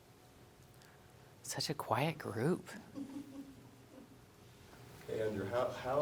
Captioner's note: person chuckling